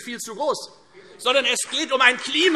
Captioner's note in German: Beifall Freie Demokraten